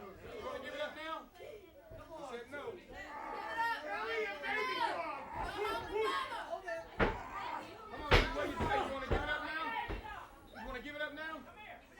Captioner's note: crowd chatter